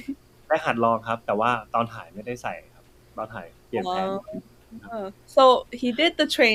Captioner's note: answering in Thai